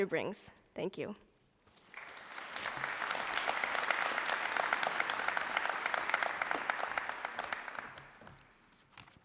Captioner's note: applause